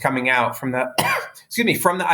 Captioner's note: coughs